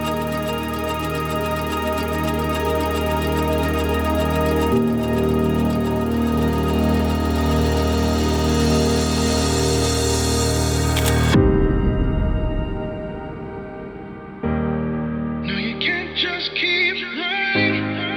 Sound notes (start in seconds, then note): 10.9 camera shutter clicks; 12.8 thought-provoking music